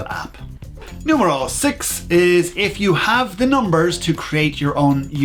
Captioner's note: whoosh